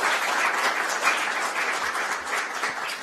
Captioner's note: applause